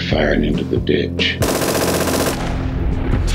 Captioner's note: gun shots